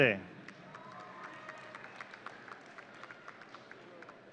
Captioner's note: audience cheering